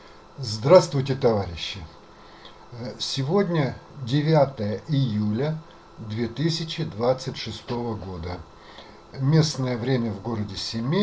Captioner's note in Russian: откашливается